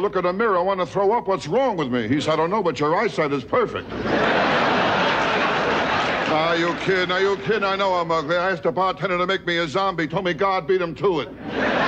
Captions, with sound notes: in the mirror, I wanna throw up. What's wrong with me? He said, I don't know, but you're eyesight is perfect. (audience laughing) Are you kiddin'? Are you kiddin'? I know I'm ugly. I asked a bartender to make me a zombie. Told me God beat him to it.